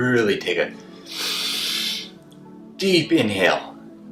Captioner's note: inhales deeply